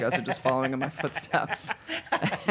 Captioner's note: laughing